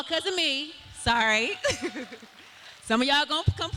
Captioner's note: cheering